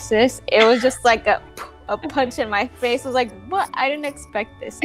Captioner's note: poof